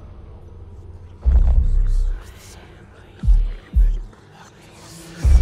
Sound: whispering

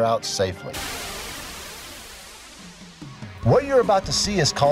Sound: wind whooshing

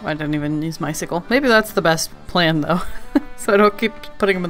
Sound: laughs

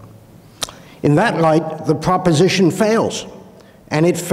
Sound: clicks tongue

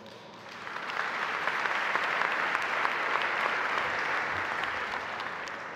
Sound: audience applauding

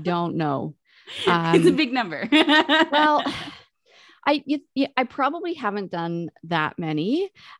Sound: laughs

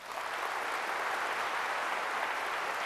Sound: applause

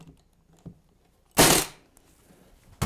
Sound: staple gun

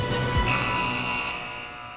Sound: buzzer

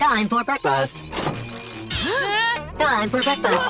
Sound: gasping

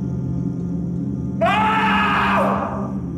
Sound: shouting

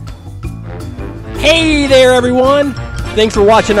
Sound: voiceover

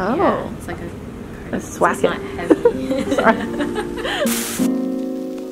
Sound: laughing

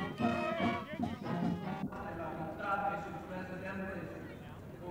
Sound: marching band music; chanting

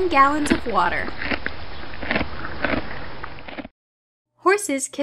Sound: horse crunching

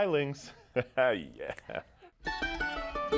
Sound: laughing; gentle bluegrass music

